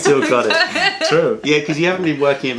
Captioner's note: laughter